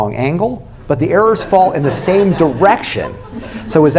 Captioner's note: laughter